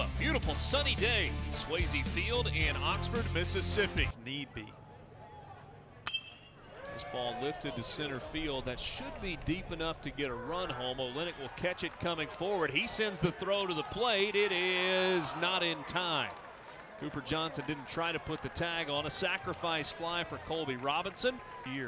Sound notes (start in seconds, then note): 6.0 crack of bat